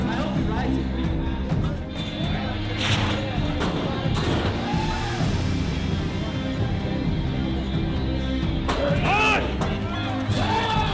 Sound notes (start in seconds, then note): 0.0 upbeat music; 2.2 bull snorts